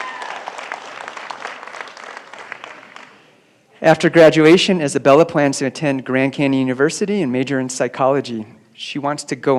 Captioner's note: applause